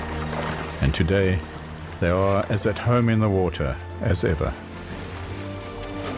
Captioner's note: animals calling